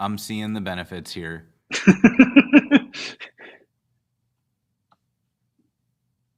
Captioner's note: laughter